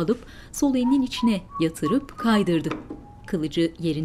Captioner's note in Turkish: Islık sesi